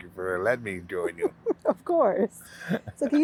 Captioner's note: laughing